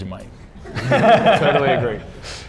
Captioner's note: laughing